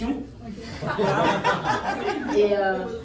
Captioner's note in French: rires